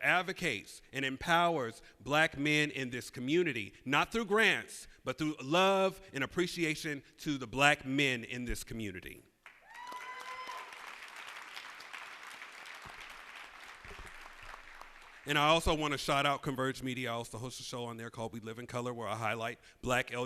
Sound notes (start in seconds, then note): 7.9 cheers and applause